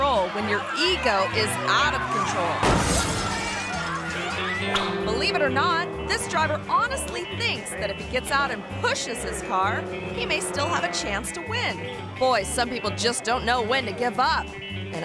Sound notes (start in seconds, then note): 2.5 car crashes